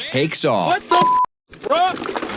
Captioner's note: beep